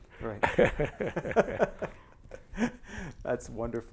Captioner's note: laughter